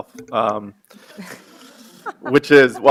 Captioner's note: audience laughing